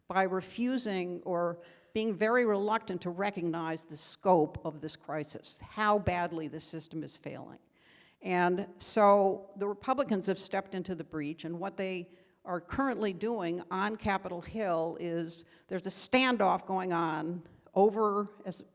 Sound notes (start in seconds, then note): none